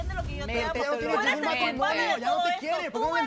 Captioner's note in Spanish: Hablan al unísono